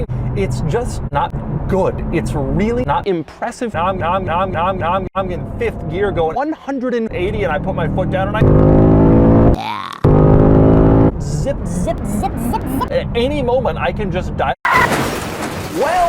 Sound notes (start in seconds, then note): 7.2 loud engine noise; 14.7 excessive car crash noises